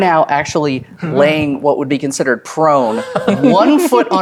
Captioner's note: laughs